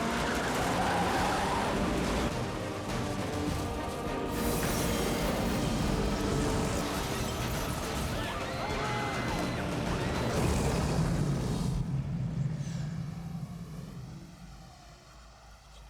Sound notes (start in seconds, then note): 0.6 tires screeching; 6.4 glass breaking; 6.4 screaming